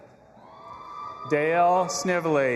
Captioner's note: audience applauding and cheering